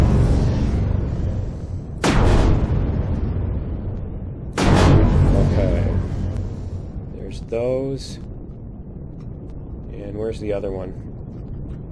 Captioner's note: explosion